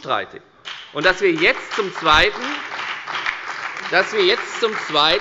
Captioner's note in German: Beifall bei der FDP, der SPD und der LINKEN